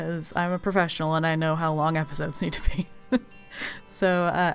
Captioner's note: laughs